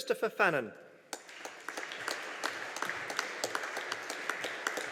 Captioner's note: audience applauding